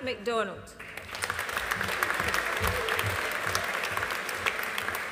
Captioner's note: audience applauding